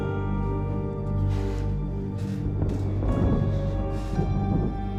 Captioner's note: heavy breathing